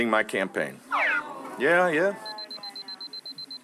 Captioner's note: audience sighing; beeping